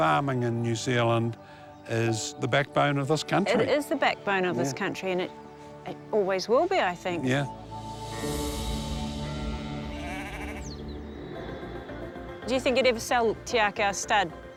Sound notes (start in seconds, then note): 8.1 sheep bleat